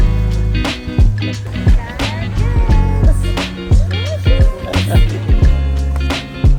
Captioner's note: laughter